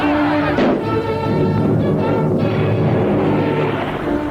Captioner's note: gun blasting; water splashing